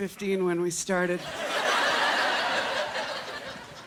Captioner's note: laughter